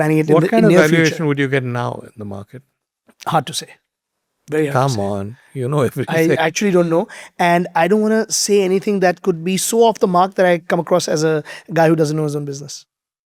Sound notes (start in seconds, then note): 5.7 chuckles